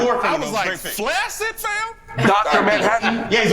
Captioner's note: laughs